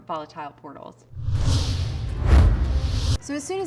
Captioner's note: forceful wind sound